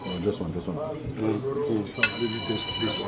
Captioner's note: phone ringing